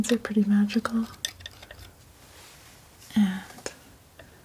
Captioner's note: tapping